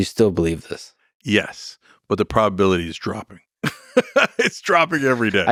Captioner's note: laughs